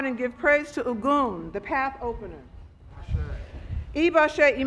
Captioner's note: speaking Foreign Language